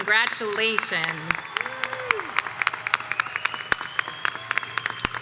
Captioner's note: audience applauds